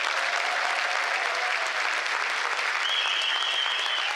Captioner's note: applause